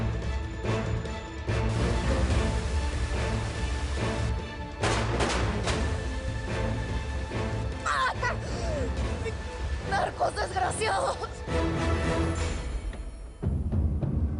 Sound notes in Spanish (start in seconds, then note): 3.9 Ruido de la fuerte corriente; 4.8 Detonaciones de disparos